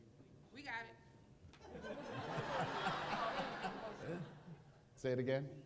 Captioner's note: laughter